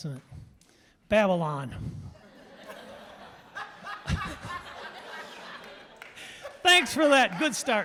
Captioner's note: audience laughing